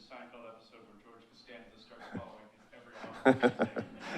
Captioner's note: audience chuckling